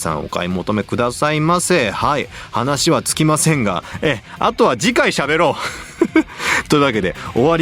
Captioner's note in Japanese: 鼻息